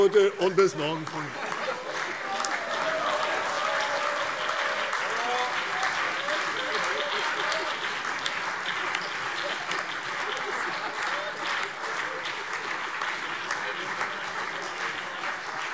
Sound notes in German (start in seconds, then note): 2.5 Beifall CDU, BÜNDNIS 90/DIE GRÜNEN und vereinzelt SPD